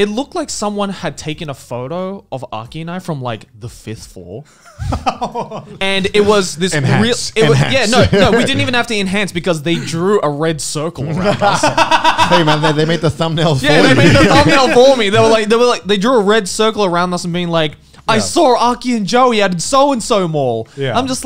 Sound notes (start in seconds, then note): 4.6 laughing; 11.0 all laughing